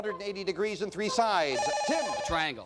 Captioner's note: bell rings